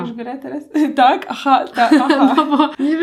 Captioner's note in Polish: śmiech